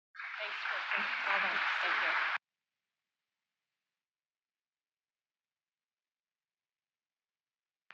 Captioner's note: applause